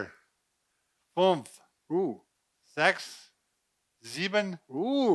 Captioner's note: speaking in foreign language